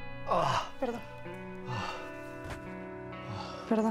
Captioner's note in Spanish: él jadea